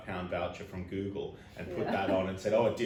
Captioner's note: laughs